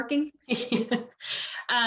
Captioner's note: laughs